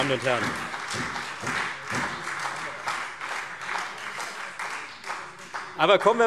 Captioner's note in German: Beifall Freie Demokraten und SPD